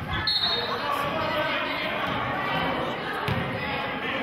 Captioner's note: whistling